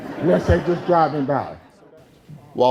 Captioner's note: crowd laughing